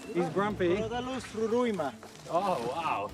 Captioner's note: speaking foreign language